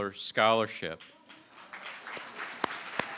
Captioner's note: applause